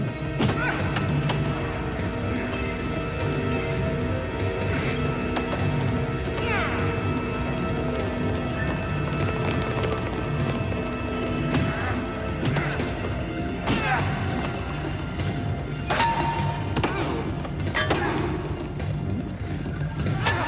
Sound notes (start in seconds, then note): 11.7 grunts and groans; 11.7 thuds and smacks; 16.2 clunks; 16.2 groans